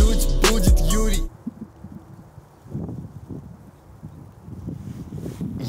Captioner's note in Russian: музыкальная заставка; шум ветра